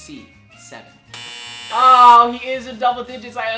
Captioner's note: answer board buzzes